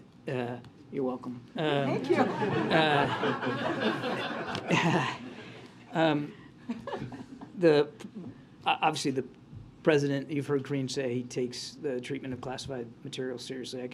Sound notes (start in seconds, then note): 6.1 laughter